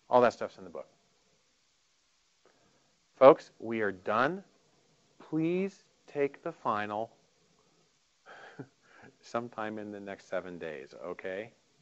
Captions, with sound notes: All that stuff's in the book. Folks, we are done. Please take the final (laughing) sometime in the next seven days, okay?